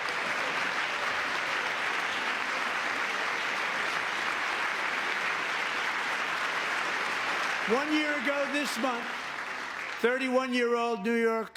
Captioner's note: cheering